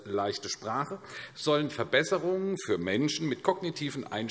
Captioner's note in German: none